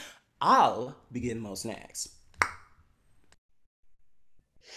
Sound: tongue pop

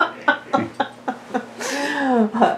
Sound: laughter

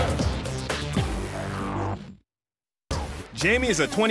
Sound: energetic upbeat music; laser beaming

